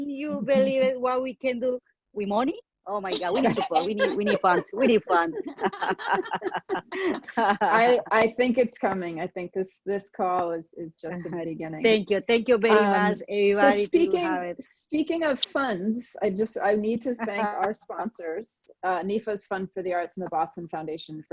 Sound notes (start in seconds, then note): 3.1 laughing; 5.1 all laughing